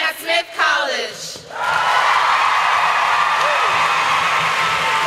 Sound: audience cheers

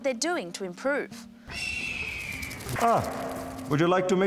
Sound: eagle squawk

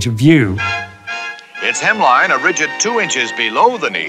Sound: voiceover

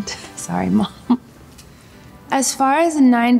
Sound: chuckles

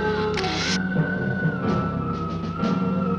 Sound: hissing

